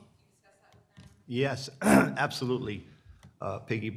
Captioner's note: clears troat